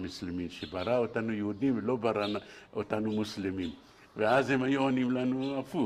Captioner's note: explains in Hebrew